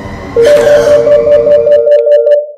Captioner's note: phone rings loud